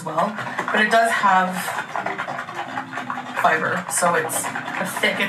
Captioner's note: liquid sloshes